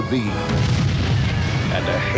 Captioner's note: booming